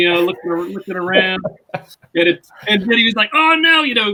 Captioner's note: laugh